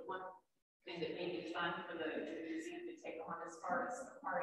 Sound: speaks faintly

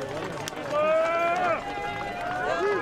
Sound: crowd cheering

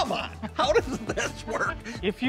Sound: both laughing

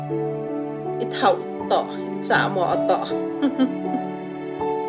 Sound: laughing

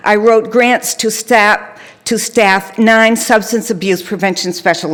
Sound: none

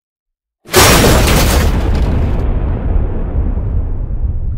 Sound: loud bang

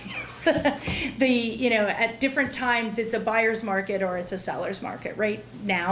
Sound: chuckle

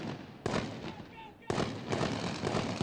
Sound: voiceover; rapid, continuous gunfire

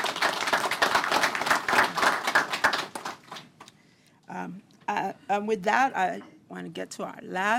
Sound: applause

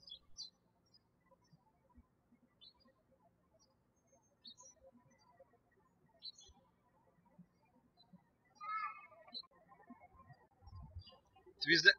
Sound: birds chirping

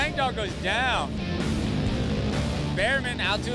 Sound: engines revving

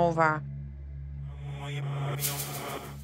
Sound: speaking distortedly

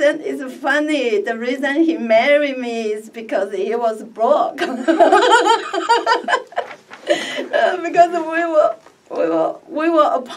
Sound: laughs

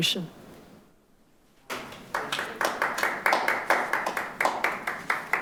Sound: audience applauding

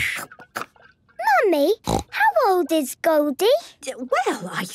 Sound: snorting

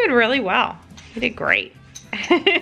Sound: laughs

